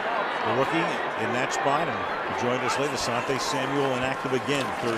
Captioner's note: pa announcement